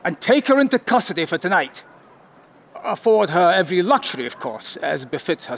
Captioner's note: none